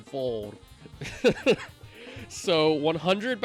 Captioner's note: laughing